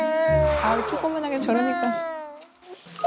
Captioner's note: lying down + crying